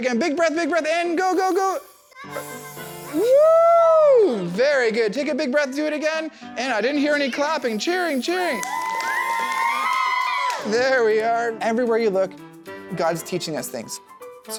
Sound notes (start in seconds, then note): 8.5 children clapping and cheering